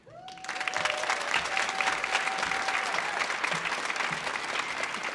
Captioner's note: audience applauding